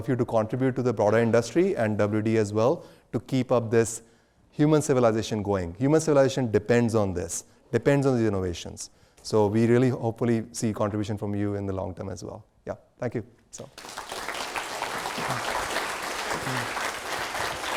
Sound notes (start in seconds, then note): 13.7 audience applauds